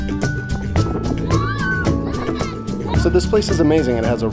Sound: children scream playfully

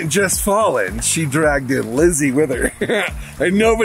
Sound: laughs

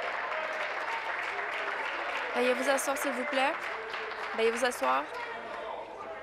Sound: applause

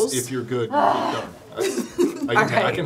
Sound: sighing; giggling

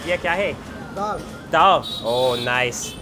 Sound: speaks in foreign language

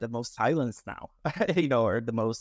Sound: laughs

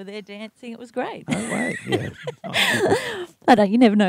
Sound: laughs

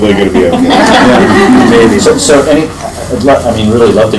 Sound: laughing

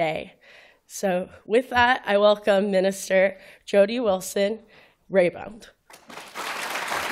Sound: applause

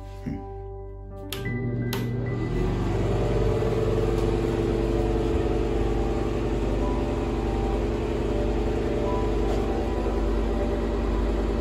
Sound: bathroom exhaust fan runs

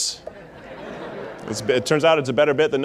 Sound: audience laughing

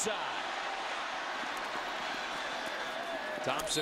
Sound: crowd cheering

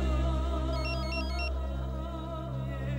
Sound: phone ringing

